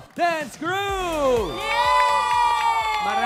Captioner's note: applause